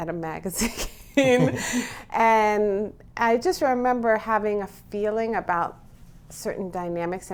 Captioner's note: laughs